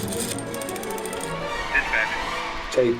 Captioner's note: phone clicking